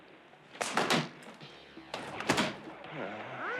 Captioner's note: cracks whip unsuccessfully